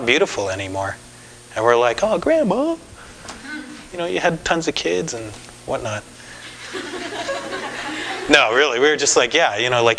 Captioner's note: laugher